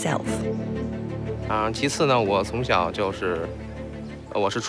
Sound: speaking Chinese

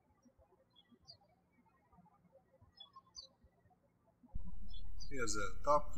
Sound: birds chirping

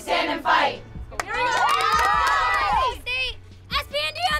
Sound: cheering and clapping

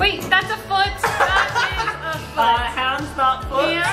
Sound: laughs

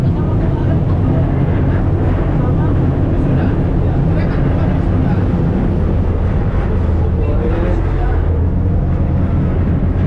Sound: windy ambience

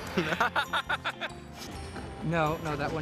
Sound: laughs

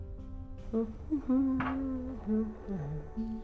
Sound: humming

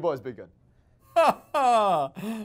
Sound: laughs

